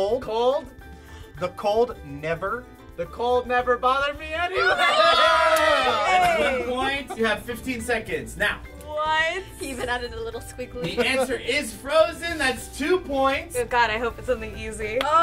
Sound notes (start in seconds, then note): 4.5 all clamoring